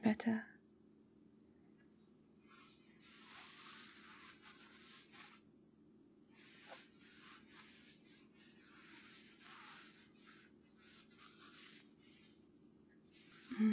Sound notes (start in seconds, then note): 2.9 completely innocent T-shirt shuffles